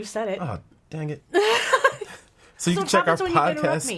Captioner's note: laughing